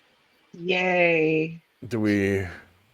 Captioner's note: sarcastic